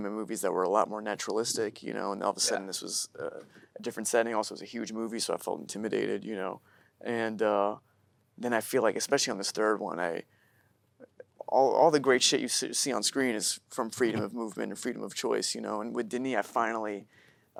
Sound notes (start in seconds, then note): none